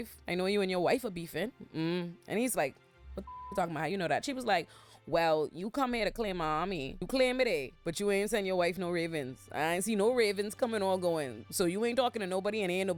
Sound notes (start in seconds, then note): 3.2 beep